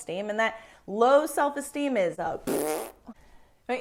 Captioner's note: blows raspberry